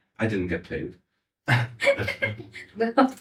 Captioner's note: laughing